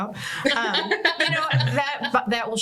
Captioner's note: laughter